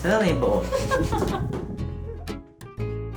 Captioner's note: laughter